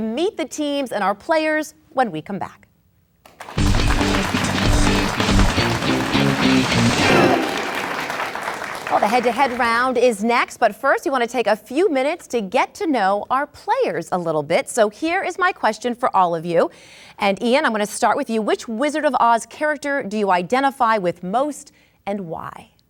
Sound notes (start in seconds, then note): 3.2 crowd clapping